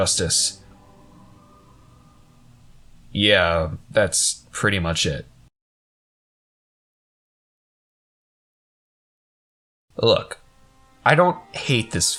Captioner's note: awkward Pause